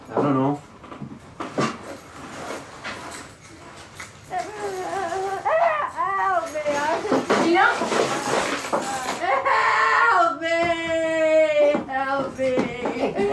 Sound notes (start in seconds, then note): 4.3 Gina crying